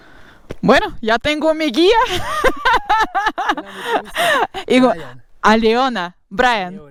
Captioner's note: in Spanish